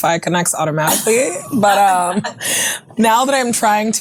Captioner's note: ladies chuckling